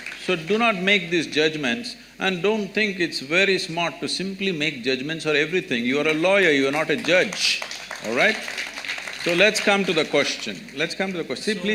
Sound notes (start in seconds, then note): 6.1 applause